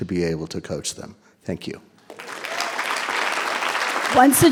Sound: audience applauding

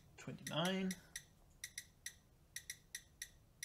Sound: machine beeps

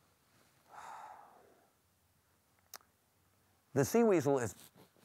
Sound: sighs

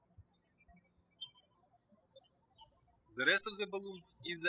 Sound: birds chirping

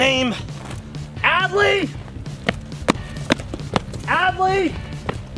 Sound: stomping

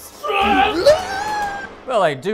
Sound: screaming

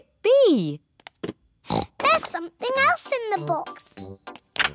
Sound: oinks

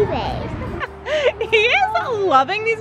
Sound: laughs

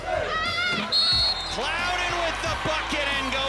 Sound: crowd cheering; whistle blowing

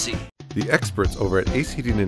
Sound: voiceover

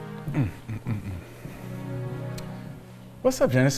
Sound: man moaning

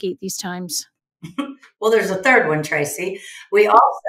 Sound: chuckles

